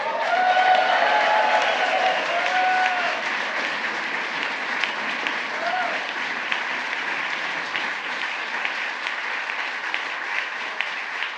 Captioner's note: applause